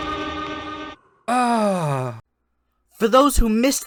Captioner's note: sighs